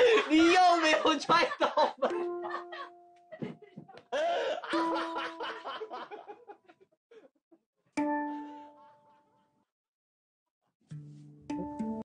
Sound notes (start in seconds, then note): 3.2 laughter